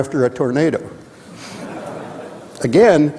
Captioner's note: audience chuckling